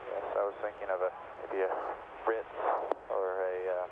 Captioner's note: radio